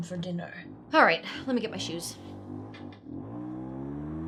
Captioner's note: motorcycle revs